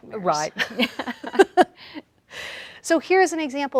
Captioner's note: both laughing